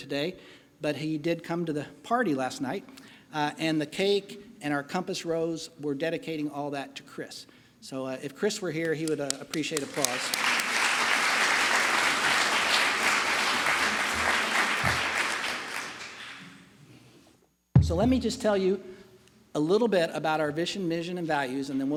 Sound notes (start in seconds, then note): 16.5 applause